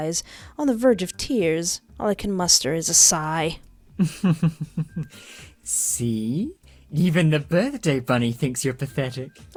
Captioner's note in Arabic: ضحك